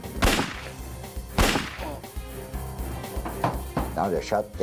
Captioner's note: gun fires